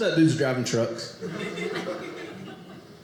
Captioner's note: audience laughing